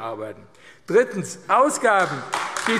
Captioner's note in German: Beifall AfD